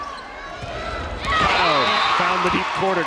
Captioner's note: crowd cheering; whistle blows